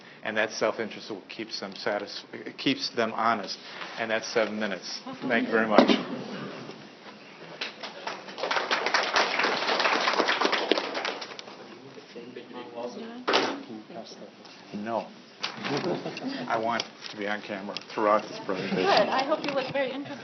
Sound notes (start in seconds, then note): 7.6 applause followed by joking with one another